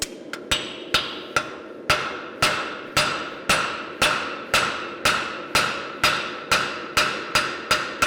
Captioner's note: sharp metallic hammering